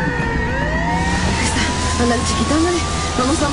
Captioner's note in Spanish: Sirenas